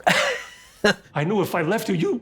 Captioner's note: Katya laughs